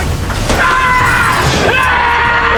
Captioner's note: screaming